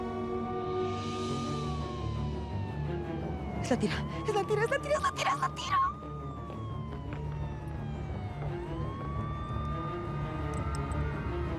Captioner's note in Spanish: sirena de policía; sirena de policía